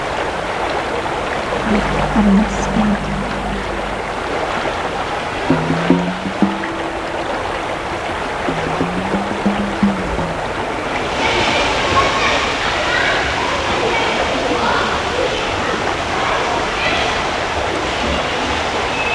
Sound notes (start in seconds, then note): 5.3 distorted popping